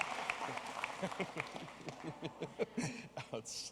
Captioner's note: applause